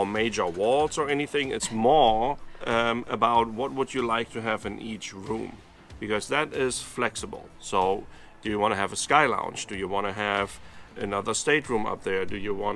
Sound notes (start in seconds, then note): 1.8 laughs